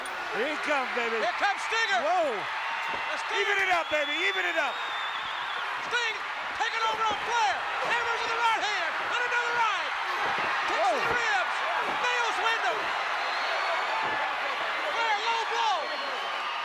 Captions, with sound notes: Here he comes, baby. (crowd cheers) Here comes Stinger. Whoa! Even it up, baby. Even it up! Sting taking over on Flair. Hammers with he right hand, and another right! Kicks to the ribs. Nails Windham! Flair low blow.